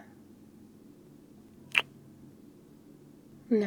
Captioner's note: kiss